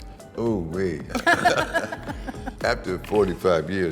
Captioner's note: both laughing